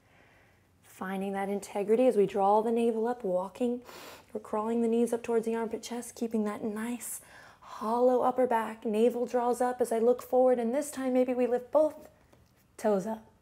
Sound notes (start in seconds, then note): 0.0 exhales; 3.8 inhale